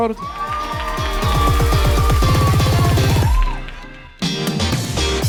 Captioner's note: crowd cheering; upbeat music